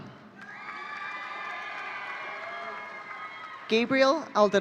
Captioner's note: audience cheering